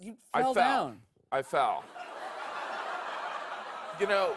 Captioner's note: laughter